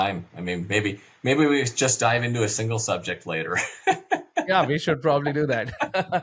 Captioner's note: laughs